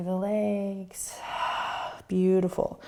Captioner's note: exhaling